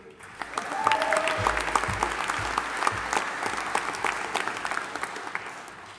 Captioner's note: audience applauding and cheering